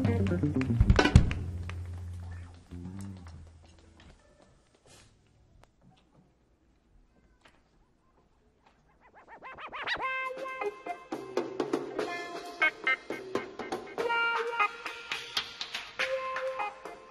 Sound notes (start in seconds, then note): 8.9 record scratches